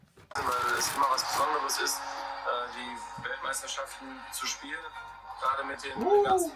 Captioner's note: German speech